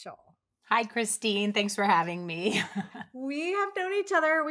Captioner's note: laughs